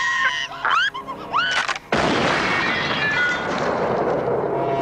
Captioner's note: loud bang